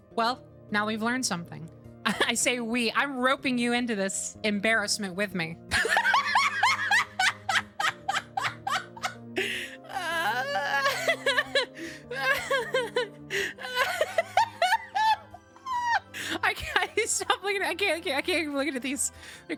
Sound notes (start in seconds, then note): 5.7 sudden Hysterical Laughter; 9.3 continued Strained Laughter